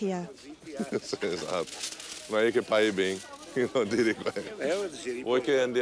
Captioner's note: speaking in Italian